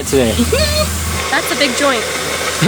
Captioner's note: giggles